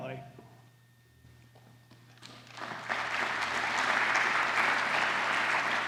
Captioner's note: applause